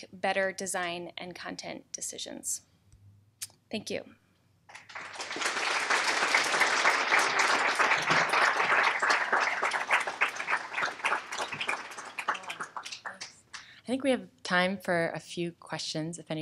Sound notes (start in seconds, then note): 4.7 applause